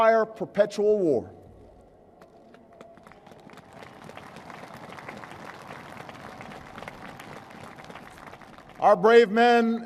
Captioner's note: applause